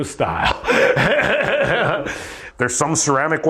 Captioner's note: laughs